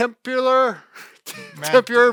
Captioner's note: stutters and laughs